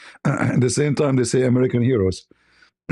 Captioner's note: berdehem